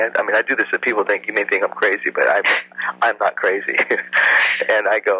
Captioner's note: laughs